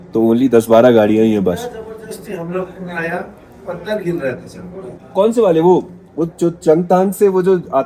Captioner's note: background conversations